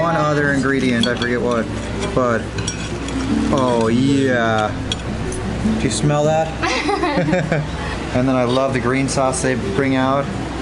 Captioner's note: laughs